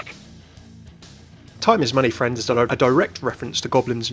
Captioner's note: voiceover